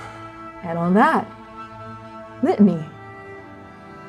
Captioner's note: exhaling